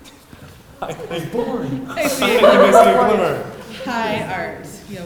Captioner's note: laugh